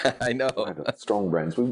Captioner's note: laughing